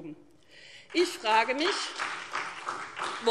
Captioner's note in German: Beifall SPD